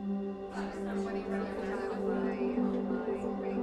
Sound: chatter continues

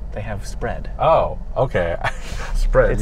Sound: laughing

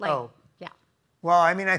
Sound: Somali

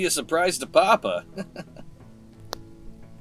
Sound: laughs

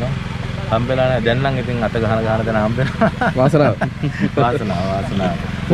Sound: laughing

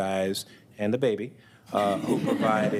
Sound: all chuckle

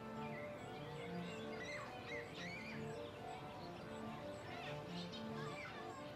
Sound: kids giggling in background

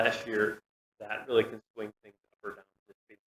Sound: audio cuts out

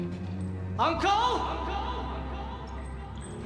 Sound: echoes

